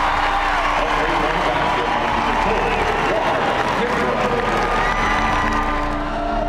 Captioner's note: cheers and applause